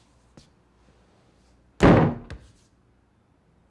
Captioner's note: bang on door